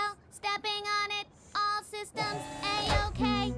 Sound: button beeps, power whirs

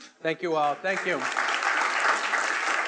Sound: attendees applauding

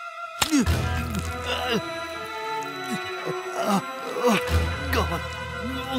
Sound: grunting; grunts

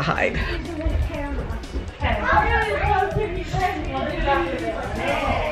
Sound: family talking excitedly

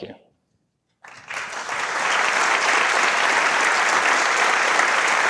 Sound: audience clapping

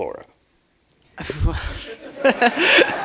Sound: chuckle

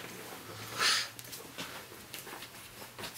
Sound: sniffs

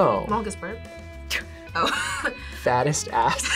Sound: laughs

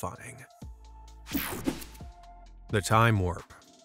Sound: screen whooshing

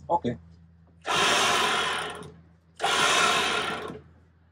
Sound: winch

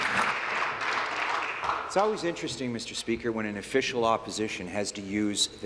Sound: applause

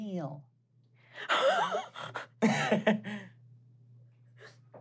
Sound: laughing

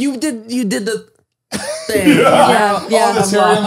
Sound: they all laugh

